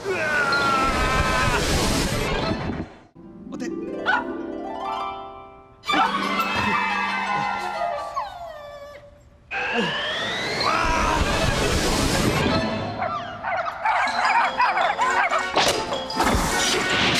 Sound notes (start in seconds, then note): 3.2 dogs barking